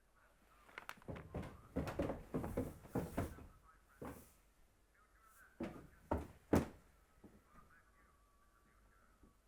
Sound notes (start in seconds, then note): 0.0 muffled chatter from television; 1.0 footsteps pattering on wooden stairs